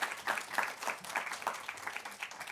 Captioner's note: applause